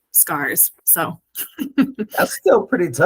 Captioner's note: laughs